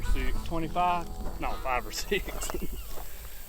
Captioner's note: laughter